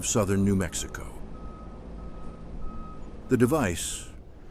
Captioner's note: beeping, motor running